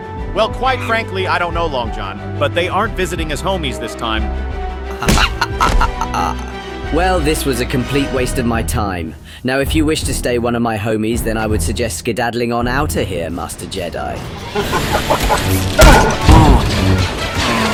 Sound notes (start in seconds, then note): 14.5 Grievous laughing